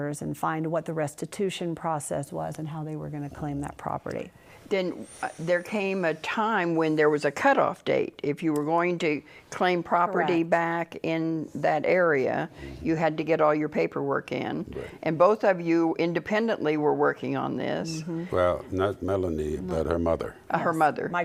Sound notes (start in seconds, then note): 12.5 sounds of agreement